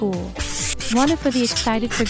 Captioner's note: hand Wipe Noise